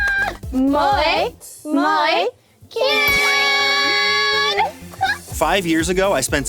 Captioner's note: speaking foreign language